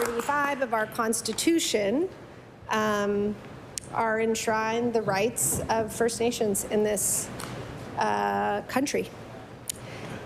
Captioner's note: applause